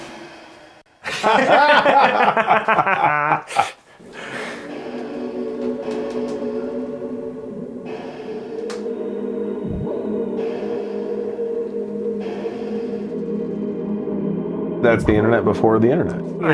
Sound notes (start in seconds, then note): 1.0 both laughing; 4.9 soft electronic music playing